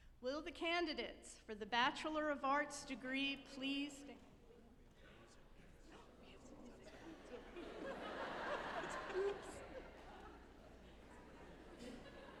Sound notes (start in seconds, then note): 6.6 group laughing